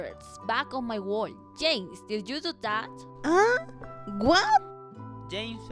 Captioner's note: screams